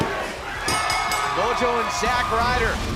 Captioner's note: bell ringing